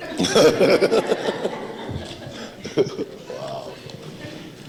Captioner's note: laughing